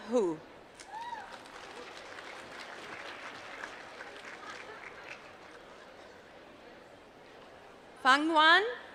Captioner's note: applause